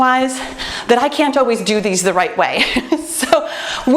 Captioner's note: laughs